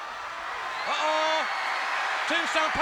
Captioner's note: crowd cheering